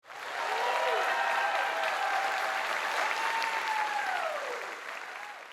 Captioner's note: applause